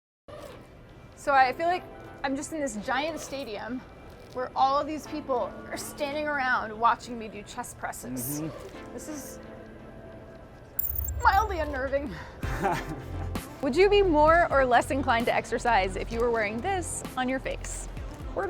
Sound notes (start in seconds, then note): 12.4 laughing